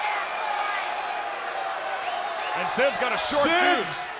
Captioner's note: crowd chatter